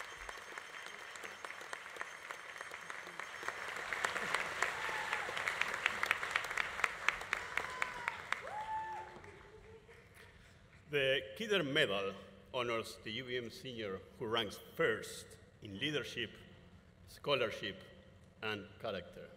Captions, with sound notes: (audience applause continues) (audience cheering continues) - The Kidder Medal honors the UVM Senior who ranks first in leadership, scholarship, and character.